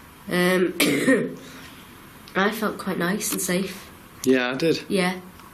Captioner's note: coughing